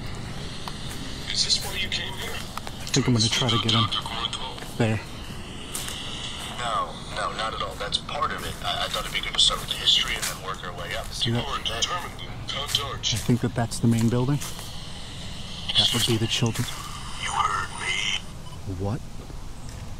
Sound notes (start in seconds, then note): 17.3 slightly raspy